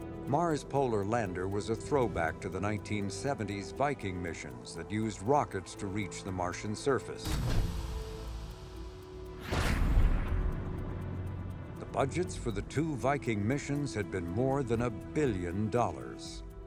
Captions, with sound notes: Mars Polar Lander was a throwback to the 1970s Viking missions that used rockets to reach the Martian surface. (rocket blasting) The budgets for the two Viking missions had been more than a billion dollars.